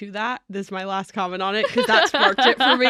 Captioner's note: laughs